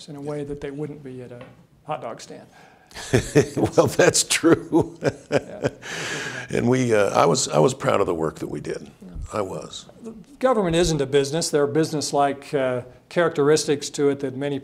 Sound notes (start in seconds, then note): 2.9 chuckles